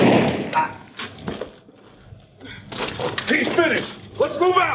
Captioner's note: gunshots bang; Wyoming grunts